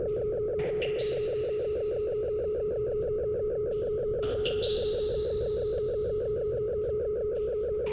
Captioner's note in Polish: Elektroniczne odgłosy kapania; Stałe, szybko oscylujące dudnienie